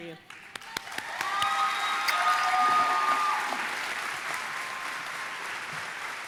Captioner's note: audience applauding and cheering